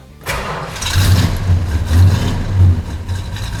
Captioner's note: engine fires